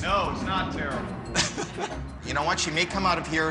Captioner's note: laughs